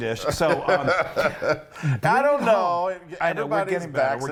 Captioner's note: laughs